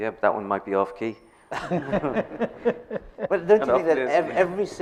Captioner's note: laughing